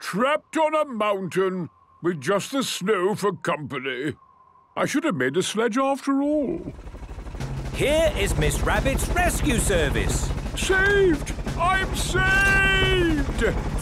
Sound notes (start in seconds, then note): none